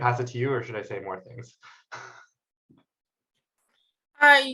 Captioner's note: chuckles